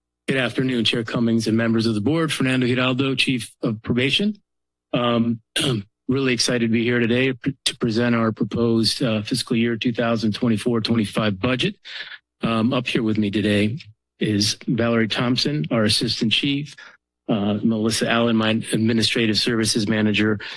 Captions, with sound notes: - Good afternoon, Chair Cummings and members of the board. Fernando Giraldo, Chief of Probation, um... [clears throat] I'm really excited to be here today to present our proposed, uh, Fiscal Year 2024-25 Budget. Um, up here with me today is Valerie Thompson, our Assistant Chief, uh, Melissa Alan, my Administrative Services Manager,